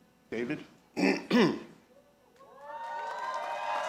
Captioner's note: clears throat; audience applauding